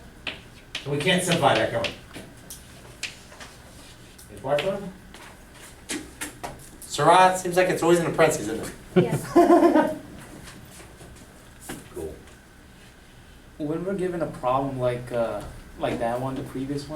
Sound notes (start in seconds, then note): 9.7 voiceover; 13.2 voiceover